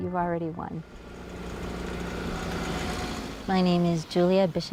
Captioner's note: car engine roars